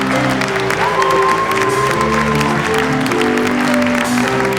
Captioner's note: audience cheers